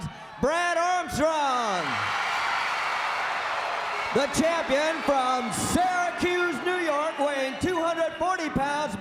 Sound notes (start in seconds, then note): 1.7 crowd cheering